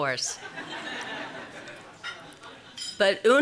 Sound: audience Laughs

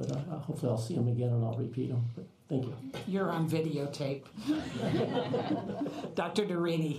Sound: laughter

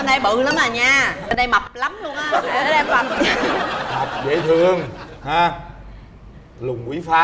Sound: laughter

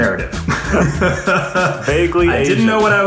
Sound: all laughing

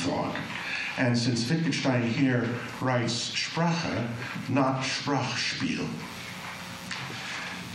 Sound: german

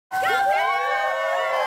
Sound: applause

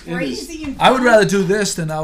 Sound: voiceover

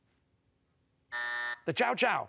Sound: buzzer

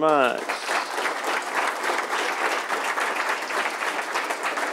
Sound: audience applauding

